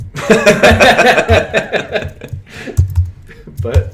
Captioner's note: laughter